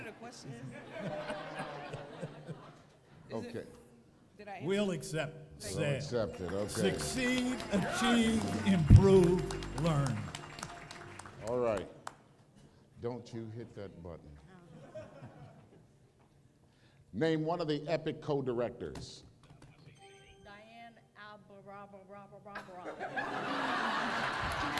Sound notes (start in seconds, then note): 0.5 laughter; 19.9 ding